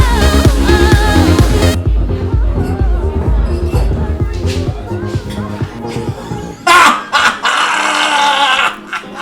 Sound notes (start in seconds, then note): 0.0 uptempo dance music; 5.4 laughs